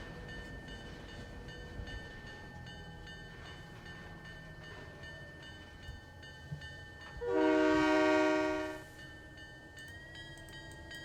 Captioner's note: train whistle